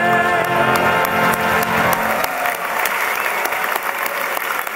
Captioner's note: applause